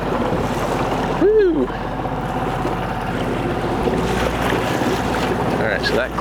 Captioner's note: waves crashing